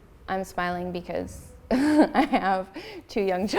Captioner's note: laughs